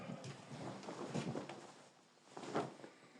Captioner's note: sighs